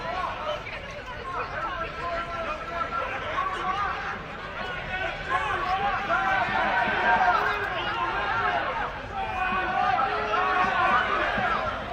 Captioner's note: shouting